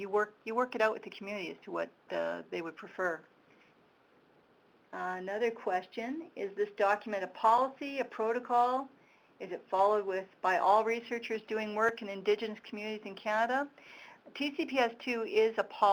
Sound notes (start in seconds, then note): none